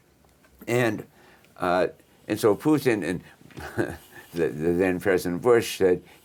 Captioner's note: chuckles